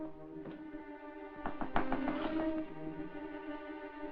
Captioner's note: knock at door